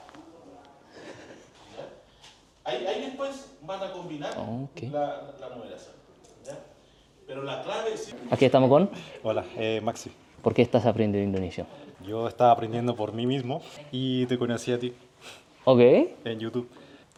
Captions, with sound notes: Now we’re here with? (Spanish) Hey, my name is Maxi Why are you learning Indonesia? I was learning for myself Then i saw you in YouTube